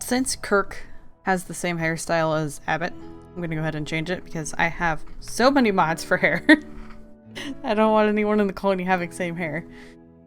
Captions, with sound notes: Since Kirk has the same hairstyle as Abbott I'm gonna go ahead and change it because I have so many mods for hair *laughing* I don't want anyone in the colony having same hair.